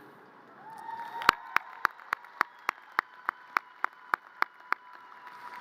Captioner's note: audience cheers and applause